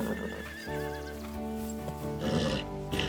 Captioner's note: horse neighing